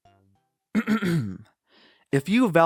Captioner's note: clearing throat